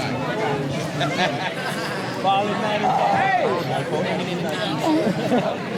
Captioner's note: laughter